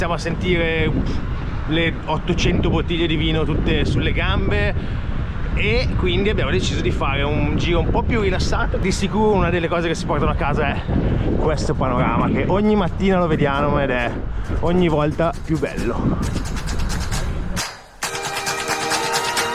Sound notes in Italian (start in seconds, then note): 18.0 Applauso